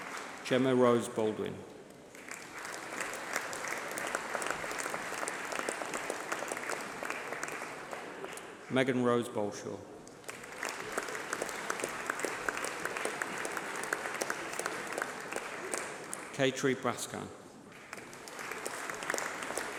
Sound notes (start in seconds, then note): 1.8 applause